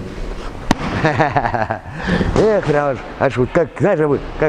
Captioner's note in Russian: смеется